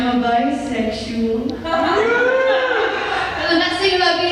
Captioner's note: laughter